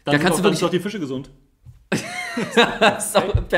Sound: laughs

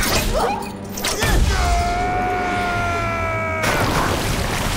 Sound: screaming

